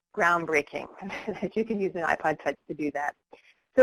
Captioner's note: laughs